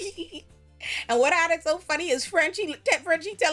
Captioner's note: laughs